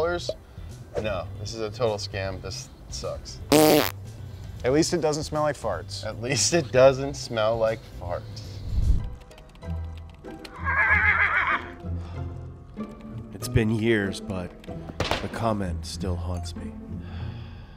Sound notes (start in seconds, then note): 3.5 blows raspberry; 8.9 exciting music; 10.9 parrot squawking